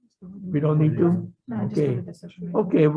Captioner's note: murmuring